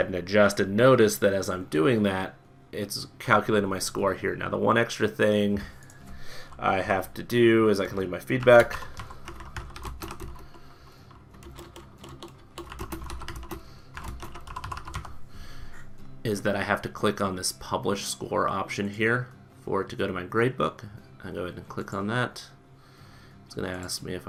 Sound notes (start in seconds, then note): 11.2 typing